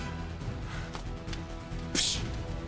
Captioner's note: disappointed sigh